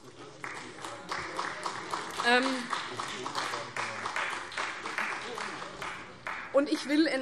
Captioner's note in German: Beifall CDU und Freie Demokraten